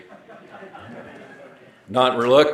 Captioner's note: audience laughing